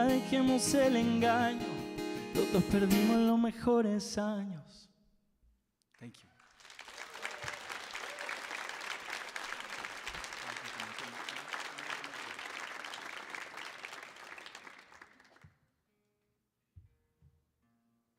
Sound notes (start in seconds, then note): 0.0 sings in Spanish; 6.4 audience applauds and cheers